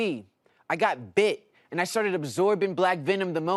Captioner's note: imitates michael jackson